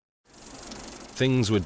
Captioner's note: film projector clicking